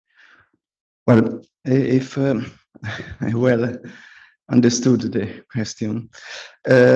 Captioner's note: chuckles